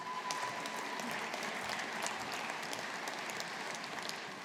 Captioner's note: audience applauding